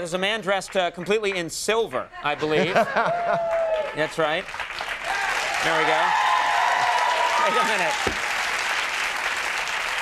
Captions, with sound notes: there's a man dressed completely in silver, I believe. That's right, there we go. (crowd applauding)